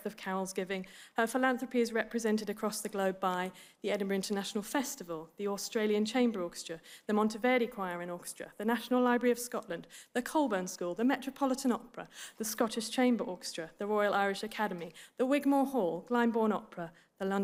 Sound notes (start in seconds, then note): none